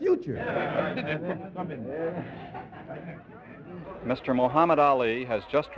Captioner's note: audience chatting